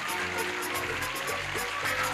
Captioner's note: clapping